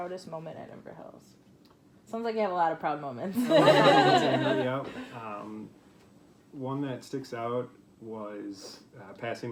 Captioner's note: laughs